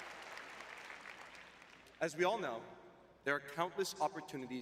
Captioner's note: audience cheering; applause